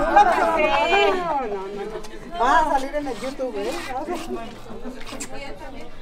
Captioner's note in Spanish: charla de borrachos